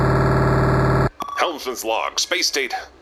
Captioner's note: audio log beeps